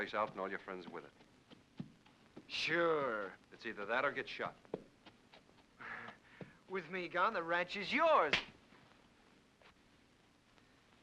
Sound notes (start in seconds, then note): 3.0 condescending tone; 8.3 crack